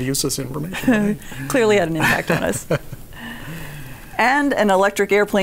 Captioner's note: laughs